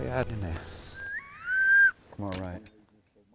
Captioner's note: duck call sounding